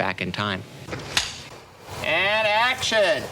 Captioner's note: film slate claps